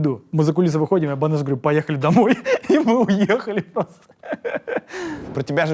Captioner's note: laughs